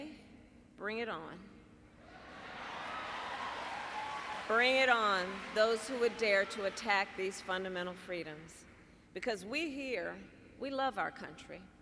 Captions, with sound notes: Bring it on. (Applause.) Bring it on, those who would dare to attack these fundamental freedoms. Because we here -- we love our country.